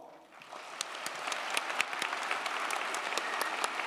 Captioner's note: crowd applauding